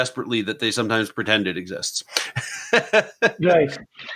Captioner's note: laughs